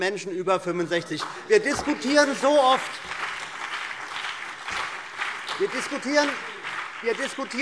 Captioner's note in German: Beifall CDU und BÜNDNIS 90/DIE GRÜNEN